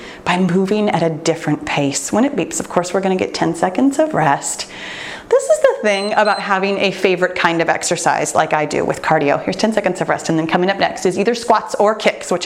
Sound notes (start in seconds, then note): 5.9 timer beeps